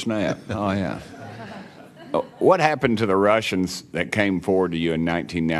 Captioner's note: scattered laughter